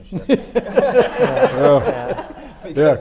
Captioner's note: everyone laughs